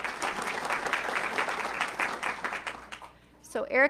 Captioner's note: audience clapping